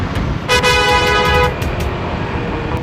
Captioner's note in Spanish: Bosina suena